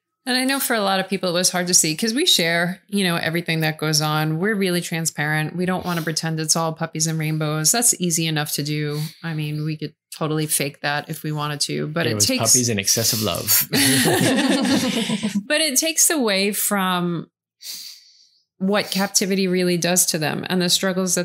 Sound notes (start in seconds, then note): 13.4 laughs